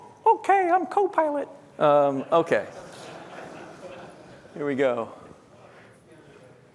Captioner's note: laughter